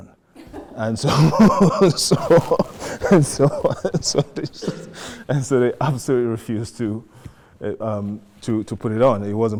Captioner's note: laughs